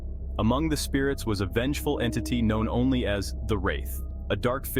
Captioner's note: voice-over